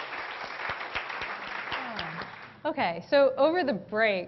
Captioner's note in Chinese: Applause; 掌聲